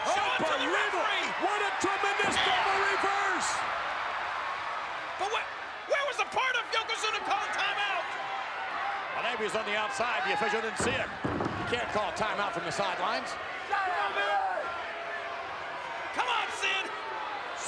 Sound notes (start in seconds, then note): 3.8 spectators cheering; 8.1 spectators cheering; 13.8 attendees cheering